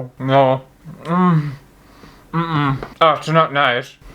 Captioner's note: frantic Panic Sounds